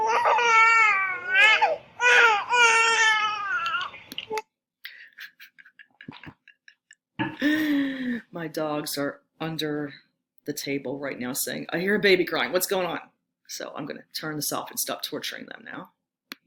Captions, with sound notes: (chuckling) My dogs are under the table right now saying, "I hear a baby crying what's going on?" So I'm gonna turn this off and stop torturing them now.